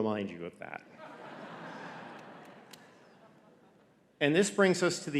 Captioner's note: audience laughing